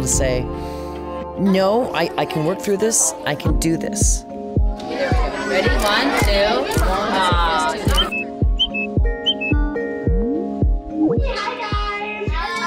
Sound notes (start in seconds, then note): 4.1 peppy music; 8.5 whistle